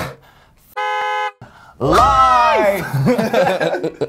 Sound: car honks; laughter

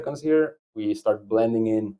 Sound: none

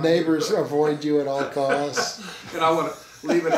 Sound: laughing

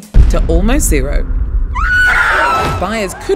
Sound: screaming

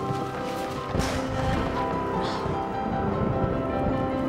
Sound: thunder booms

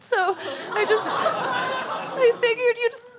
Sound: audience laughter

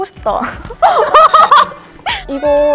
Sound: hahahaha

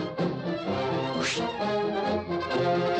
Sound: whoosh

